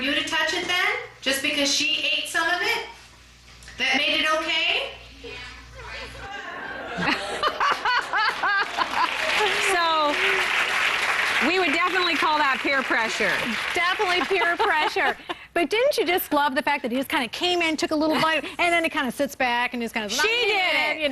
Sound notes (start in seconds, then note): 6.3 laughter; 8.0 applause